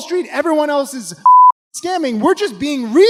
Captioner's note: beep